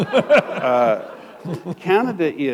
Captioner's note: laughter